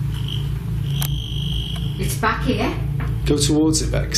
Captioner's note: metre beeping